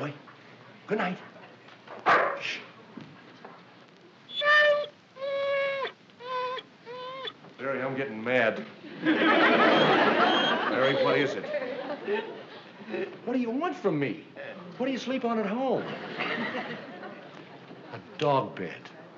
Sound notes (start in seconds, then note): 2.0 barks; 4.5 whimpering